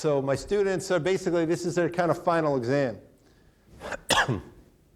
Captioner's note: coughs